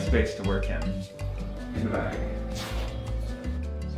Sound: zipper

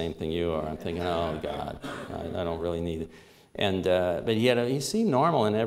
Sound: subdued laughter

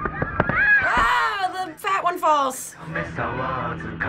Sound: kid screams

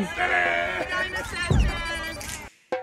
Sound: cheers

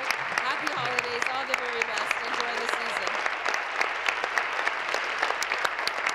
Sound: applause

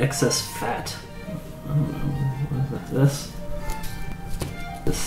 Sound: sounds of confusion

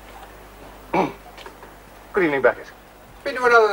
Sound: clears throat

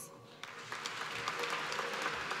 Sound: applause

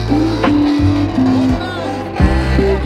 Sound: engine roaring

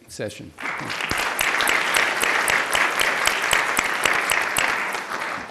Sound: applause

